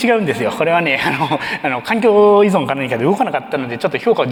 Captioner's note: chuckles